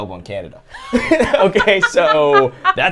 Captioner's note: group laughs